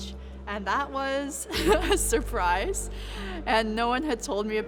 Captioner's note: laughs